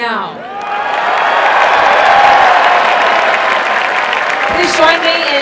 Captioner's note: applause and cheering